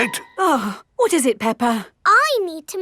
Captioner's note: gasps; sighs